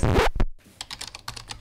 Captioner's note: record scratch; typing